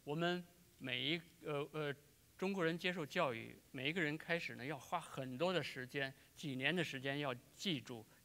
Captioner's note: speaking in Chinese